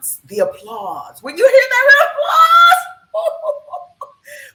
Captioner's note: laughs